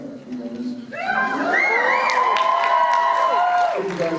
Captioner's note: whistles and cheers